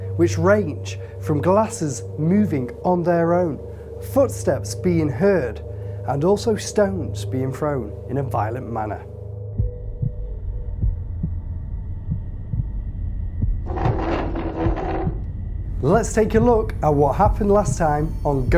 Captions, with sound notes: which range from glasses moving on their own, footsteps being heard and also stones being thrown in a violent manner. (heartbeats) (chair scrapes) Let's take a look at what happened last time